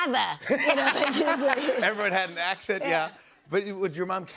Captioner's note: laughs